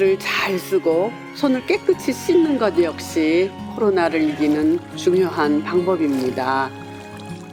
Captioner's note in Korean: 물 첨벙첨벙 손 씻는 소리